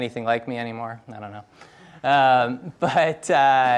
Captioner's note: laughs